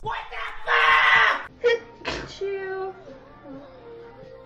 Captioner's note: sneezing